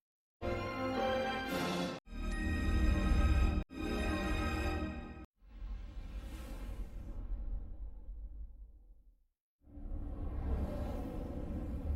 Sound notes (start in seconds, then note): 2.1 fanfares continuing; 5.5 whooshing sounds